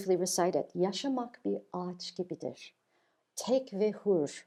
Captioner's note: speaking in Turkish